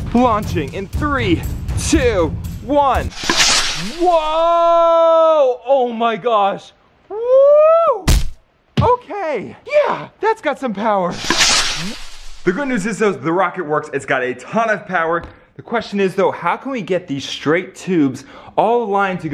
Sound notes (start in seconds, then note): 3.1 rocket whirring; 8.1 thud; 11.1 rocket whirring